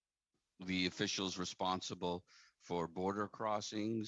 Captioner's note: speaking French